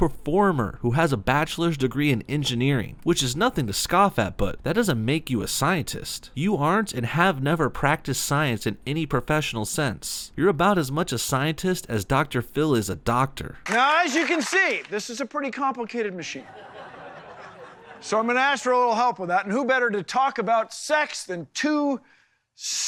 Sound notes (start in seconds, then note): 16.3 crowd chuckles